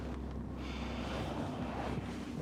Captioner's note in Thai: เสียงแปงผ่อนลมหายใจเบา ๆ